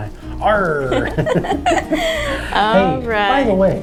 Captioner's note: both laughs